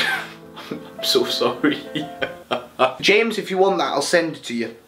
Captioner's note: laughs